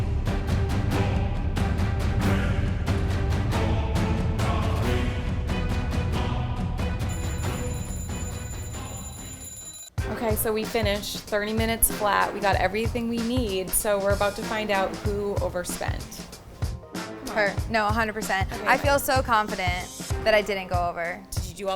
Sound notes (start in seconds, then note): 7.0 bell ringing